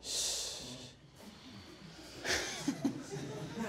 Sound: sighs

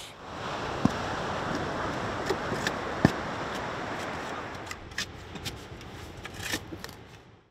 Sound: ocean noise

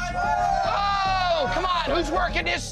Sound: patrons cheering

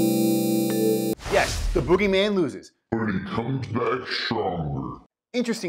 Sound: monster voice

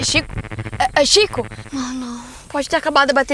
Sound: interference

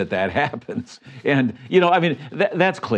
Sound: chuckles

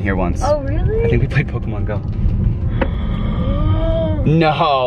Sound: gasping

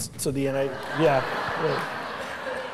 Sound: laughter

